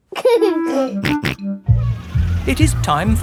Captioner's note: giggling and snorting